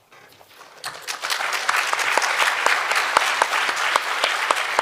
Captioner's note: audience clapping